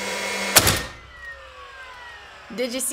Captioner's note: whirring; bang